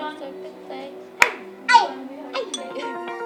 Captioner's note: laughs